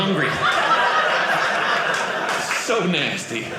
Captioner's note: audience laughing